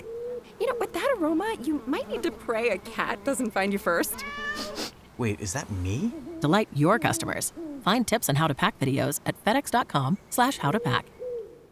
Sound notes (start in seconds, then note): 4.1 cat meowing